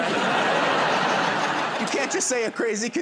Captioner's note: laughter